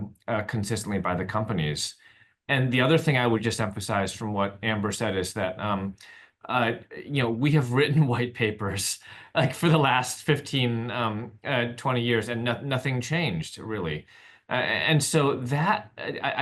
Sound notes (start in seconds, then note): 9.3 laughs